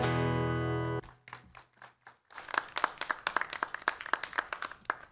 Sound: applause

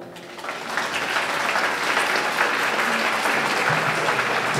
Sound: audience clapping

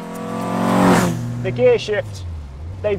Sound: car roars

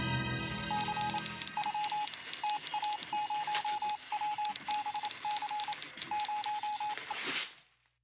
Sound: suspenseful music; telegraph beeping, typing

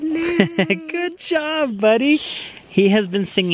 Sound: chuckling

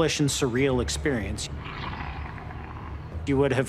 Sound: growling

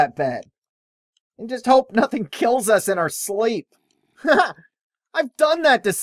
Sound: laughs

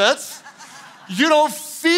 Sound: congregation laughing

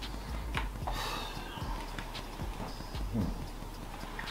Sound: sighs

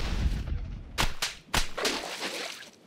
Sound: tentacles slapping

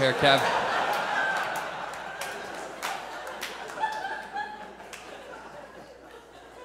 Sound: audience laughs

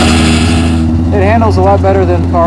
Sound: car starting

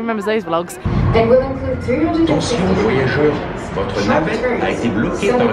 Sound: announcer speaks foreign language

